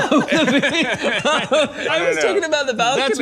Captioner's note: both laughing